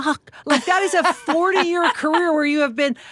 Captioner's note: Laura laughs